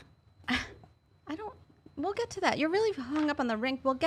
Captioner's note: laughing